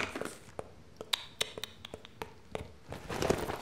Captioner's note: tuts